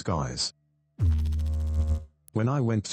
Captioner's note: electrical noise